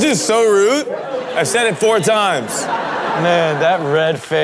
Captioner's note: laughing